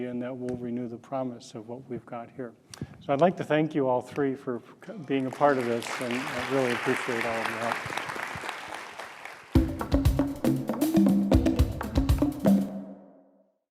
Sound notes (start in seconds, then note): 8.0 audience applauds; 9.5 upbeat music